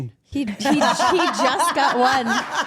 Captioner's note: Steph laughs